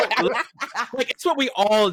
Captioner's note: laughter